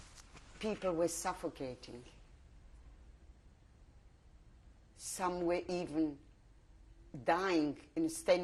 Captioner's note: pauses for 3 seconds